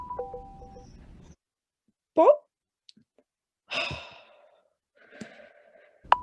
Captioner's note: sighs